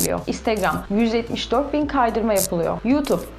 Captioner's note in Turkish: scrolling